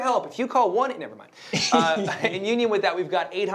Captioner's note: laughs